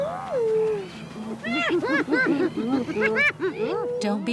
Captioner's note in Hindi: लकड़बग्घे भौंकते हैं